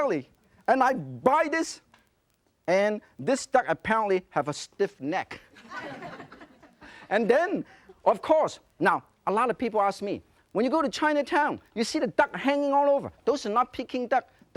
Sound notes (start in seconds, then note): 5.4 laughter